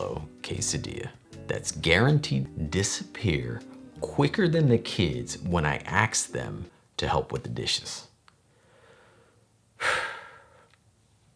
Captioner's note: deep sigh